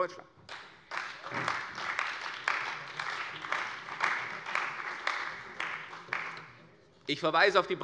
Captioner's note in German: Beifall bei der CDU und dem BÜNDNIS 90/DIE GRÜNEN